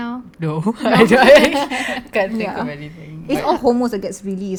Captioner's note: laugh